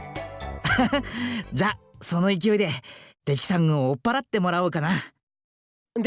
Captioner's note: laugh